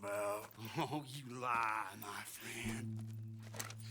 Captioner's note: laughing